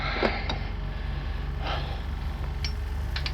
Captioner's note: camera whirring